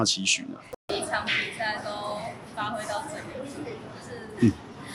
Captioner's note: laughs